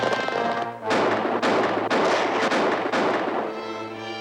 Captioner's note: guns firing